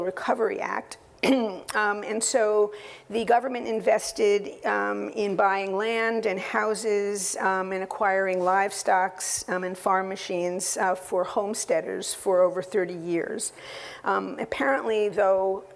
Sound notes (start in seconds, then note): 1.2 cough